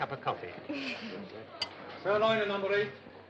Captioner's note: gentle laugh